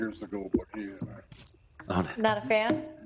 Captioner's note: speaks faintly